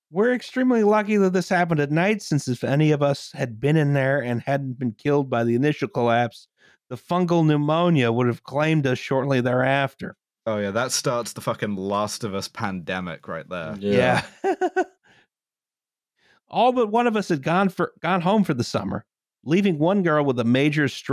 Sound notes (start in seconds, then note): 13.7 laughs